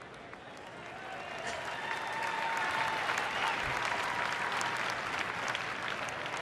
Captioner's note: applause